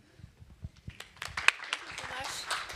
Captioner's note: applause